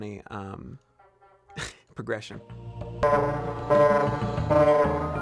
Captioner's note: low-pitched car horn